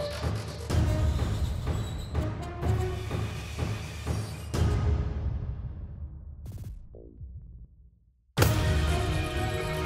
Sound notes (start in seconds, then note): 8.1 gun shot